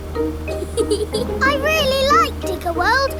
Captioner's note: george chuckling